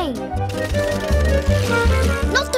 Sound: engine whirs

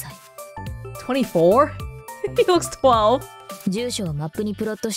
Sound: chuckles

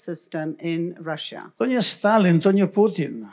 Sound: foreign language

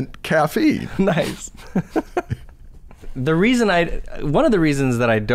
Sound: chuckles

